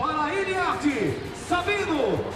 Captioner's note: announcer speaking Portuguese